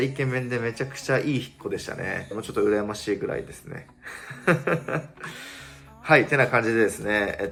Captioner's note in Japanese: 笑い